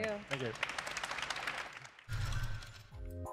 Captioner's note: applause